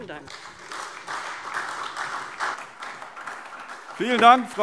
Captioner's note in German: Beifall SPD und Freie Demokraten